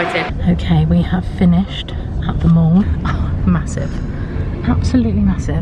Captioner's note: laughs